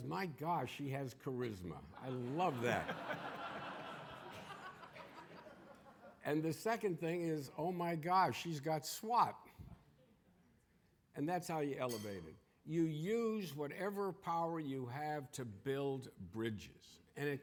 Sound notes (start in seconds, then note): 2.0 audience laughing